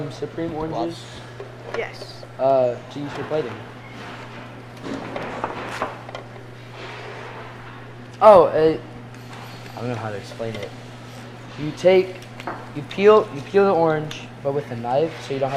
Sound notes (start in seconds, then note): 4.8 loud banging nearby